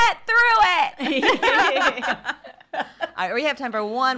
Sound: women laughing

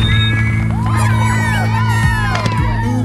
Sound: kids cheering

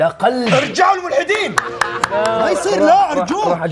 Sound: claps

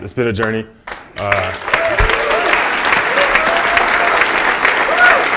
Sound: applause

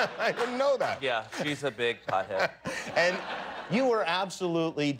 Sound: laughter

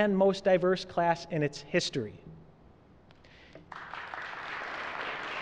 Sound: applause

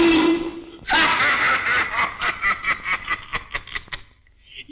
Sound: laughing

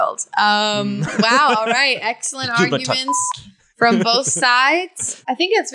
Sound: beep

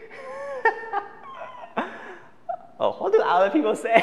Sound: laughs

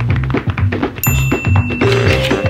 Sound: ding; upbeat music

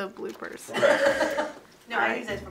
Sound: people off camera laugh

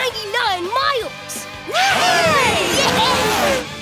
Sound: cheering

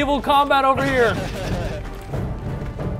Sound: laugh

